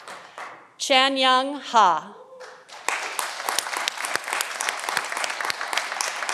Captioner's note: audience applauding